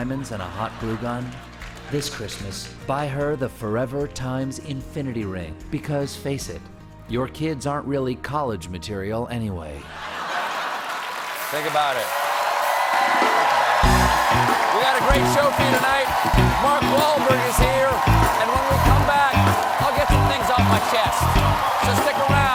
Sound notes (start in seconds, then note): 16.0 cheers and applause